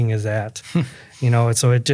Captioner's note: laughing